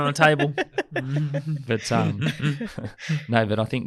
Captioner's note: laughs